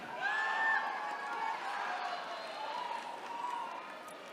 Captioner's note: attendees cheering